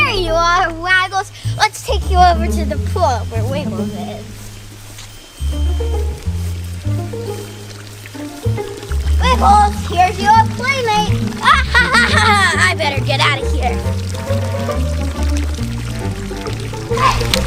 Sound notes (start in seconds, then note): 11.5 laughs